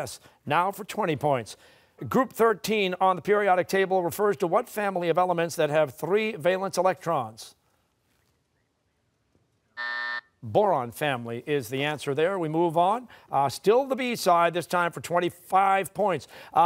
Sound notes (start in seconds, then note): 9.8 buzzer